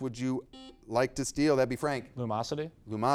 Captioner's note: buzzer beeping